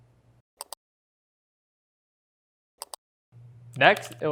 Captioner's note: mouse clicks